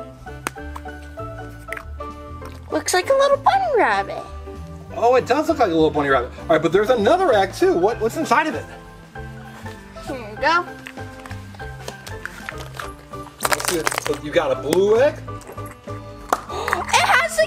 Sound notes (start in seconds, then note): 12.0 Assistant rattles egg